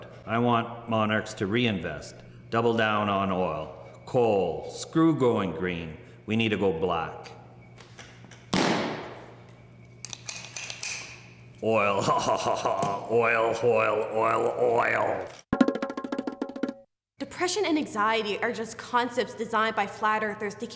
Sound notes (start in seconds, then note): 11.7 laughs; 15.5 conga drums